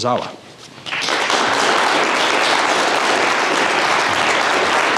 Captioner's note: audience applauding